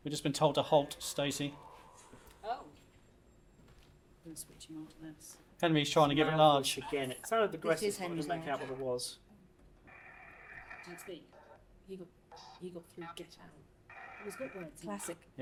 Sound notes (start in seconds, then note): 0.9 eerie playback; 9.8 static crackling